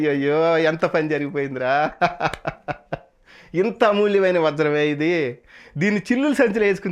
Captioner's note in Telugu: నవ్వు